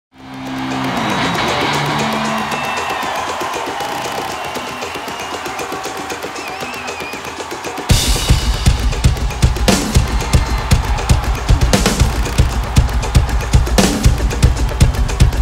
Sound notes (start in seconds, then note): 0.4 audience cheering; 3.5 drums playing